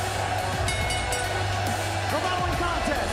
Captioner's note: bell ringing